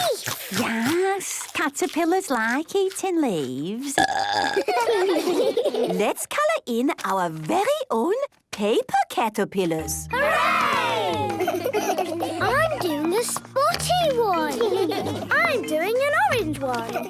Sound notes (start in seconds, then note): 3.9 burping; 4.4 children giggling